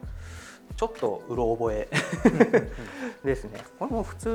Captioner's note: laughs